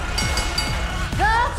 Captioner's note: bell ringing